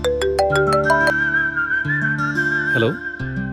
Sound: phone ringing

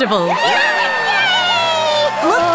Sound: cheers from crowd

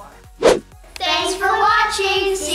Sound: whooshing

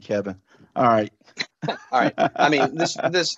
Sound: laughs

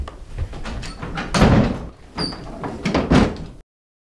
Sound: two doors closing

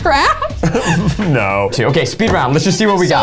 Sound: laughing

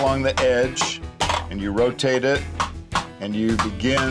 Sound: hammering

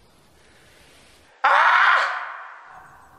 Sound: robin howling

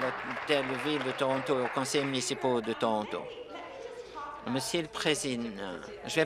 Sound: applause

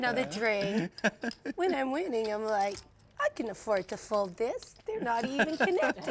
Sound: laugh

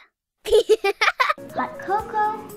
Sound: laughs

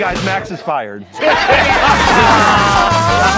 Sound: laughter

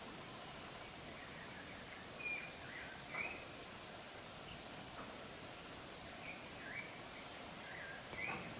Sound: birds chirping

